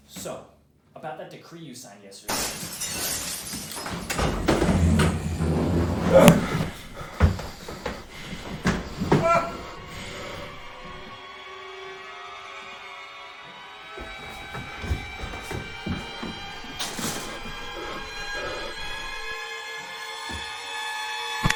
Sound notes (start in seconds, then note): 2.3 Glass shatters. A monsterious growl is heard. Haman cries out